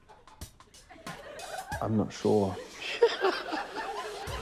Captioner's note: laughs; scattered laughter